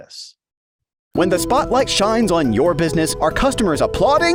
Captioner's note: voiceover